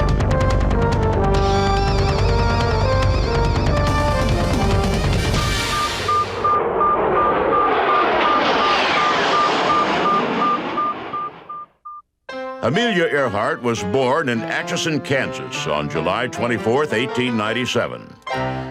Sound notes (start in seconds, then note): 5.4 beeping; 7.5 plane engine roars